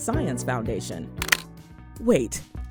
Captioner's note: camera click